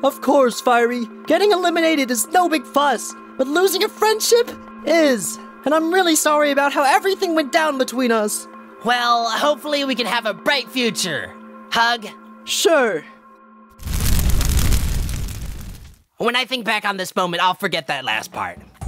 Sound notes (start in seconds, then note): 13.7 flame sounds